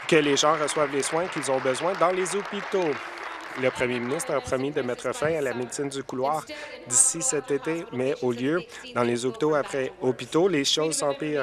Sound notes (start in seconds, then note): 5.6 applause